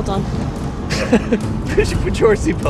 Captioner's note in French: rire